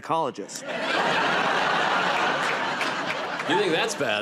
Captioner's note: laughter